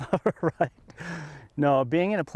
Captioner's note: laughs